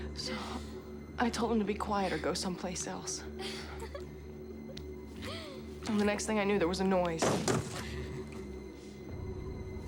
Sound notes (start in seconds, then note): 3.4 giggling; 6.9 gunshots